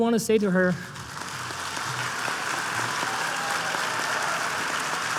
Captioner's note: applause